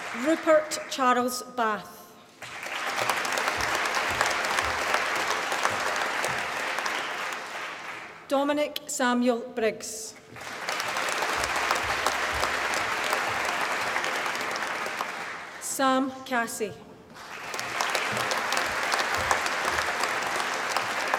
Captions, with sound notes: Rupert Charles Bath. (APPLAUSE) Dominic Samuel Briggs. (APPLAUSE) Sam Cassie. (APPLAUSE)